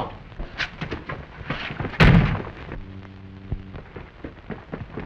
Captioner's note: door shuts